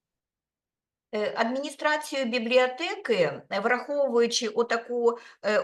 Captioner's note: speaking Ukrainian